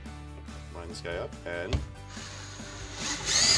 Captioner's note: drilling sound